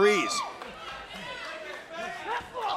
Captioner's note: crowd chatter